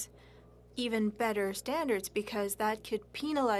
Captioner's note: speaking French